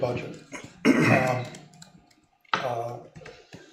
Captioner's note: clears throat